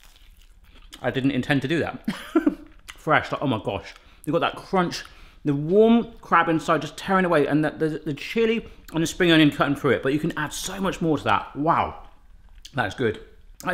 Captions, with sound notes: I didn't intend to do that (laughs), fresh. Like oh my gosh. You got that crunch. The warm crab inside just tearin' away and there's the chilli and the spring onion cuttin' through it but you can add so much more to that. Wow. That is good.